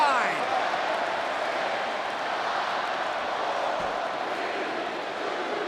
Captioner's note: audience chanting and clapping